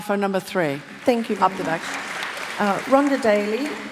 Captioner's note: applause